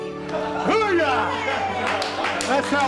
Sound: cheering and clapping

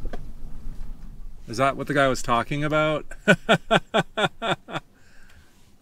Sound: laughter

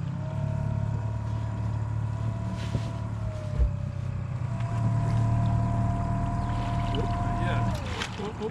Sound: boat engine idling

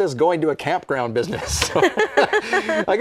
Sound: laughter

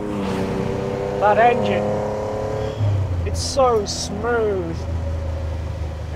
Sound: sighs

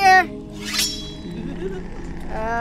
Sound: giggling in the distance

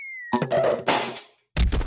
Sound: thuds

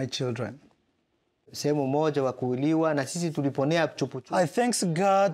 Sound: speaking in foreign language

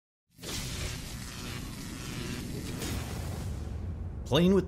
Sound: electricity Buzzing

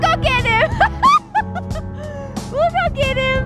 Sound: laughing

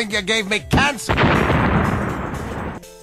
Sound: ka-boom!

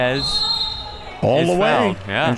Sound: whistle

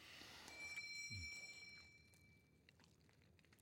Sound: doorbell rings

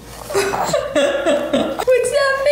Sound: laughs

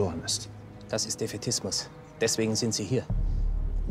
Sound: speaks in foreign language

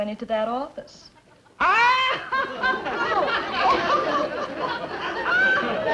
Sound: hysterical laughter

